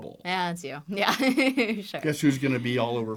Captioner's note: chuckles